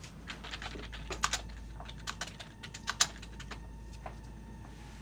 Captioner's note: keys striking; soft dramatic music